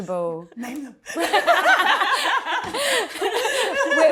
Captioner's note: laughter